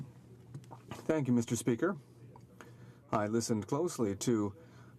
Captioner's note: speaking French